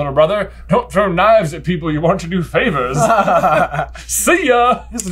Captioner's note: laughter